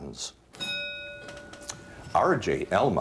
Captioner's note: bell dings